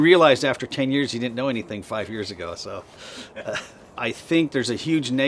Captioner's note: chuckles